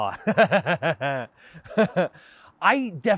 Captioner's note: laughs